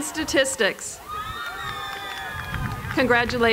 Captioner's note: applause